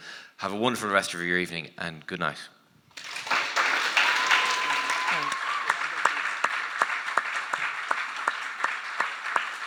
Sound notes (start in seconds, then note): 2.9 audience applauding; 4.1 audience member cheering